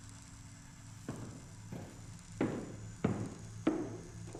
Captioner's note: electricity crackling